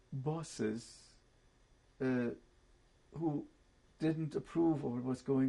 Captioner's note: pauses for 3 seconds